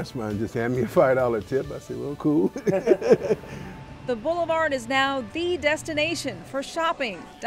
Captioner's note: laughs